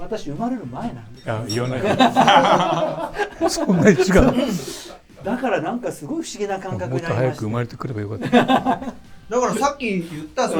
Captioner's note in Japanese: 苦笑